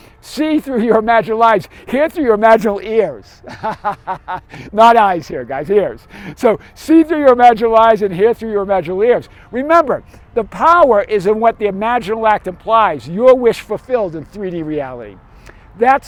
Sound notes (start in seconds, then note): 3.4 laughs